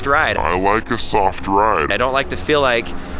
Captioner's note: voice deepens